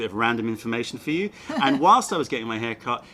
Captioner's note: laughter